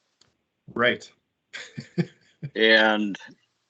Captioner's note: chuckles